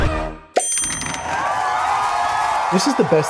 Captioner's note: applause